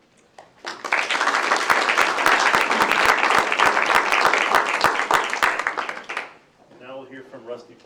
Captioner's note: applause